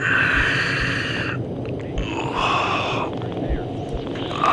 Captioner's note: Adrian groans